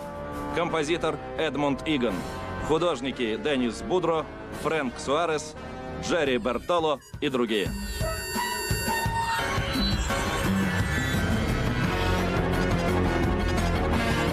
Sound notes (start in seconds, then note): none